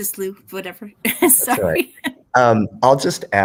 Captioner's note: chuckles